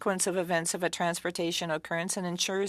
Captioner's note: speaking French